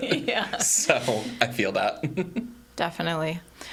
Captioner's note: laughs